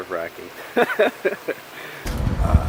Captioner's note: laughing